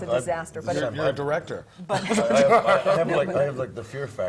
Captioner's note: laugh